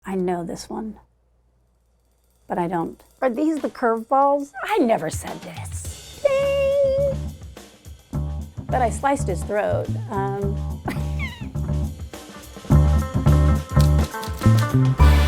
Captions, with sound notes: - I know this one, but I don't. Are these the curveballs? I never said this. Ding! But I sliced his throat. (chuckles) (upbeat music)